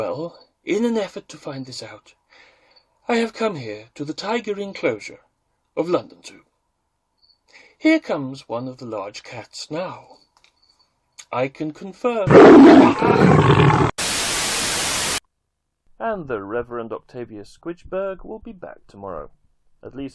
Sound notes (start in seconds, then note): 12.2 roar; 12.8 Static